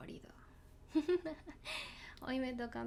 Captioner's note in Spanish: risas